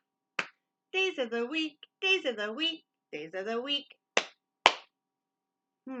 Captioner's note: clap, clap; clap, clap